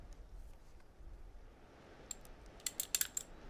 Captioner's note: gun clicking